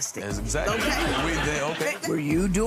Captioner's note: audience laughs